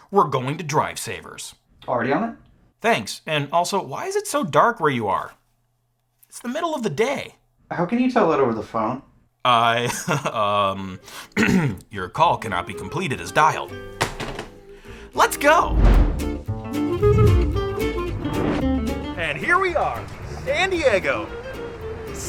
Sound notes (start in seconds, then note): 9.8 chuckles; 10.4 ambient jazz music